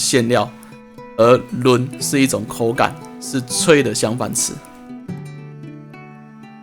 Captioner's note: Taiwanese